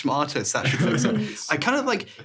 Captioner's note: chuckling